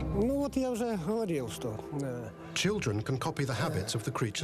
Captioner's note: man speaking in russian